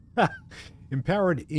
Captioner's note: laughs